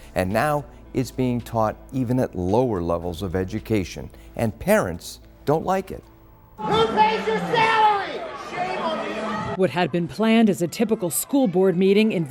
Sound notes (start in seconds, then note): 6.6 shouting